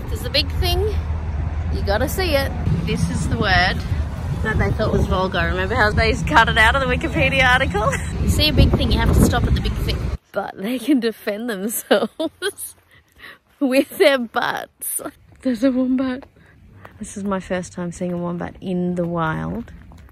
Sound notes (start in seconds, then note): 7.7 chuckles; 14.4 laughs